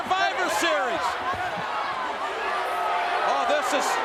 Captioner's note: crowd yelling